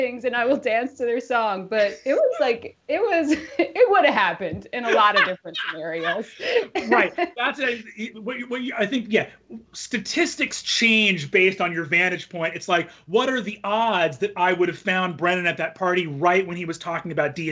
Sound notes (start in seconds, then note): 4.8 Brennan laughing